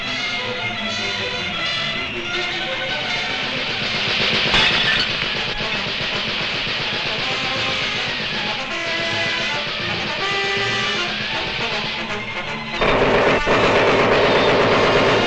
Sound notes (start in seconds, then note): 3.6 guns popping; 4.5 glass shatters; 12.8 gun bangs